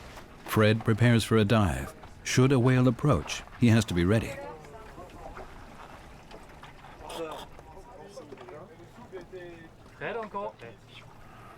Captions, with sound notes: Fred prepares for a dive. Should a whale approach, he has to be ready. [crew speaking French]